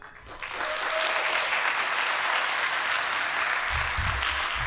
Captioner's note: audience applauding